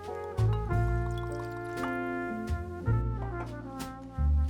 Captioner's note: beverage trickles